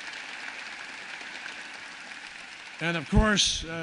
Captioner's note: applause